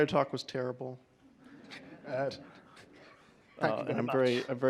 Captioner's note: laughter